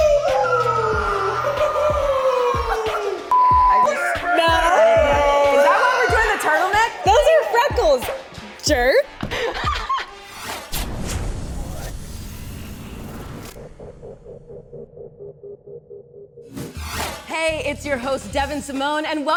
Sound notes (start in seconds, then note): 1.1 all yelling; 3.3 beep